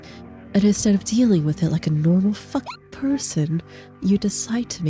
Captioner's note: hyucking